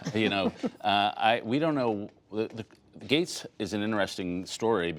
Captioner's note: laughter